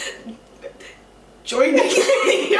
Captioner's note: both laugh